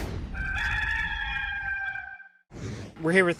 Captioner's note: cock crows